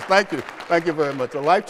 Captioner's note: applause